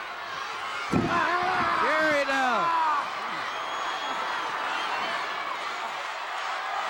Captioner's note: Ric yelling